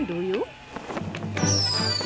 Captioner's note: sparklers whistling